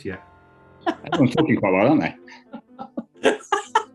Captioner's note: giggling; laughing